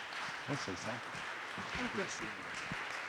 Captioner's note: audience applauding